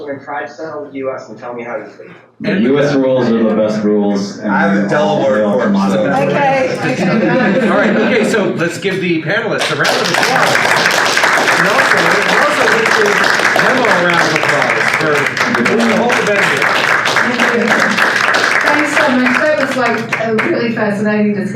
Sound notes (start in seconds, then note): 10.4 audience applause; 17.2 audience applause